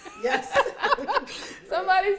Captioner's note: laughs